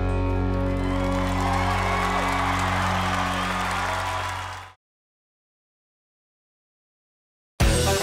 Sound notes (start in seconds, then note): 0.0 crowd cheering